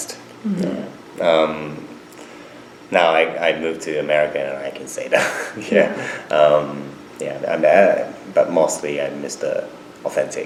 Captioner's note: laughs